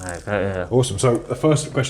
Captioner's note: mumbles with mouth full